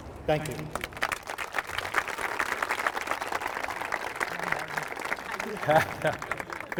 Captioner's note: applause